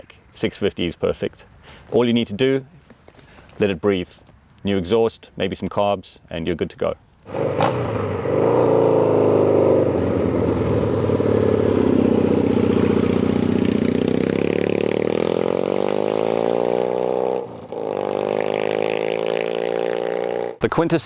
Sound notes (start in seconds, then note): 7.6 engine roars